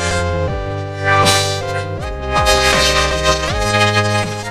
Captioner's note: gasps